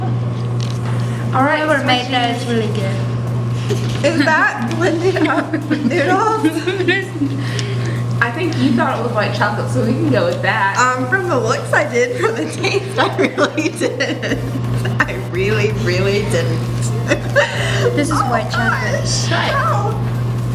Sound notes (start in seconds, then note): 7.6 laughing